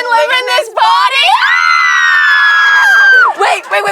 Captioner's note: shrieking